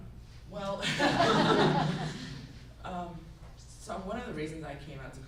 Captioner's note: group laughs